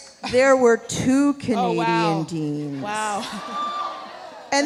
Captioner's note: laughs